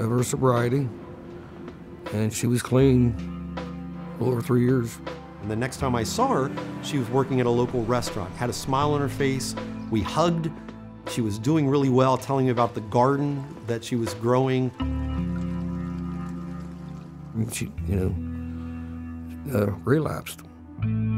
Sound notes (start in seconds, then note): 14.7 rain falling